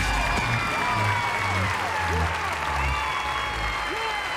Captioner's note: cheering and applause